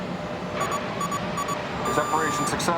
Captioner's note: alarm